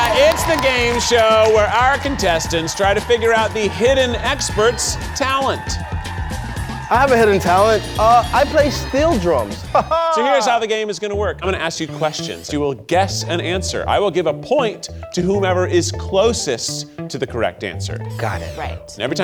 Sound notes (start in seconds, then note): 9.7 laughs